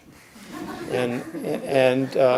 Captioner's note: audience chuckles